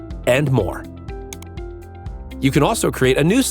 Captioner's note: mouse clicking